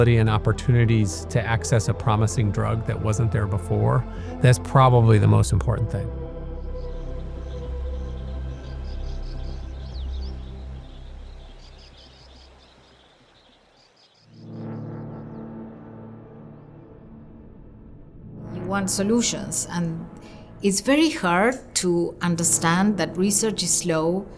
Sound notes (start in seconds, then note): 6.7 birds chirping; 7.0 calming music